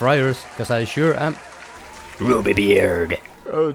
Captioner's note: sitcom applause